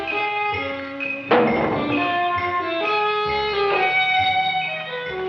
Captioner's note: can clangs